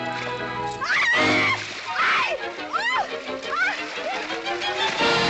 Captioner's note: chiquita screams